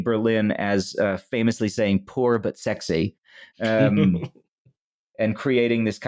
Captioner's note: someone chuckles